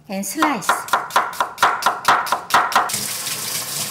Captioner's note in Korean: 칼질 소리; 수돗물 소리